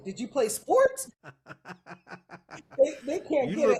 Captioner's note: laughing